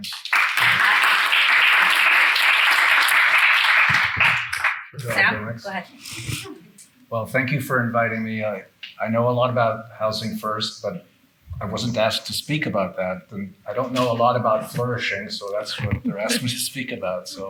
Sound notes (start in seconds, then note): 0.0 attendees clapping; 5.0 attendees faintly speaking